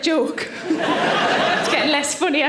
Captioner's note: audience laughing